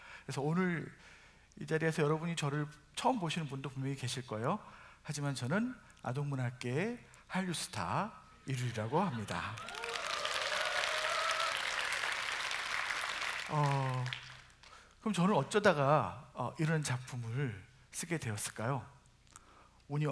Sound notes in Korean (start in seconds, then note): 9.1 박수와 환호